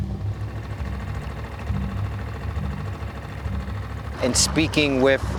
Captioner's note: motor chugging